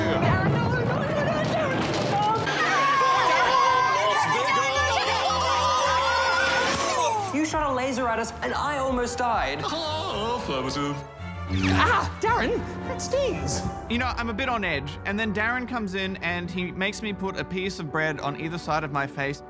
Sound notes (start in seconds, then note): 2.4 sings inanely; 2.5 hosts cry out